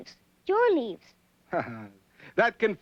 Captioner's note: chuckling